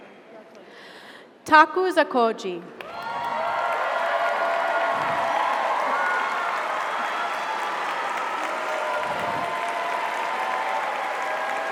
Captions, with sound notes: - You're welcome, congratulations. - Taku Zakoji. (audience applauds) (audience cheers)